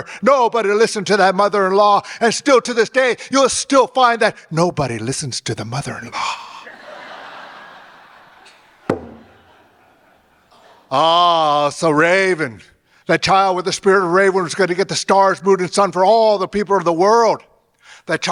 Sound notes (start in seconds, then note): 6.6 audience laughing; 8.9 drum beats